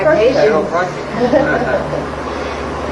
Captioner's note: laughs